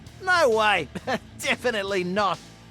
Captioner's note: laughs